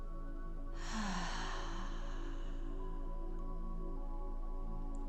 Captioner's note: exhaling heavily